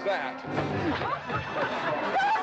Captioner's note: smack